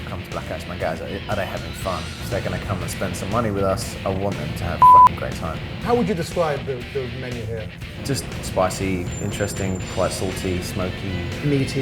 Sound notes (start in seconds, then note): 4.8 beep